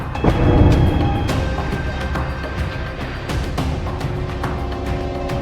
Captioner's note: rousing electronic music; door banging; rousing electronic music